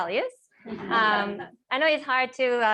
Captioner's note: laughter